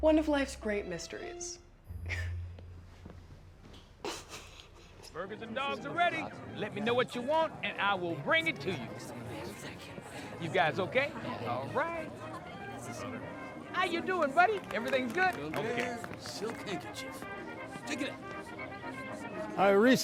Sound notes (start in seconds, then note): 4.0 Beth chuckling; 9.5 guests chattering; 17.1 guests chattering; 17.1 lively band music